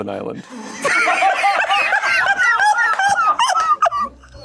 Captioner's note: everyone laughs